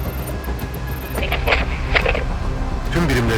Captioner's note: radio announcement